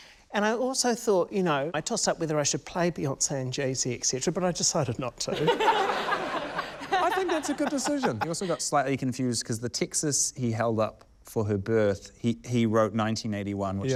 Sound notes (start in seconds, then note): 5.3 laughter